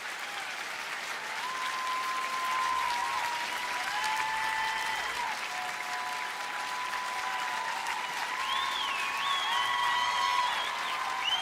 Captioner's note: applause